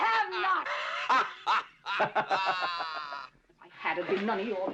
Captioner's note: laughing